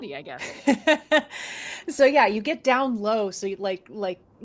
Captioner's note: laughs